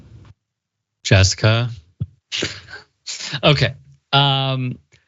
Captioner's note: laugh